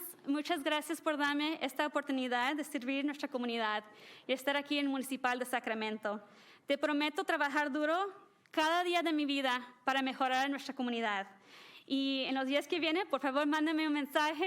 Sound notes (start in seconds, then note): 8.3 speaking spanish